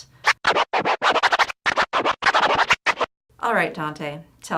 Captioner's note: scratching